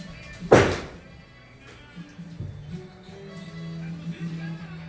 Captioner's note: hammer hits wood